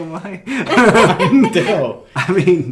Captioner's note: laughing